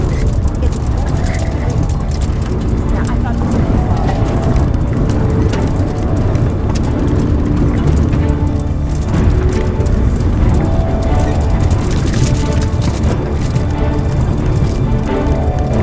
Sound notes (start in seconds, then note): 1.6 continues chattering